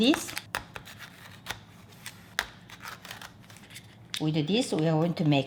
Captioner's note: package crinkling